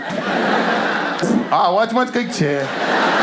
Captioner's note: fart